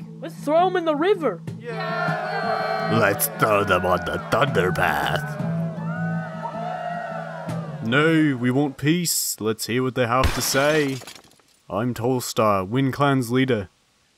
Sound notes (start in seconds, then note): 1.8 cheering; 5.3 more cheering; 8.2 deep English accent